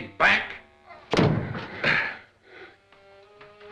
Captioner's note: Krenner panting; somber music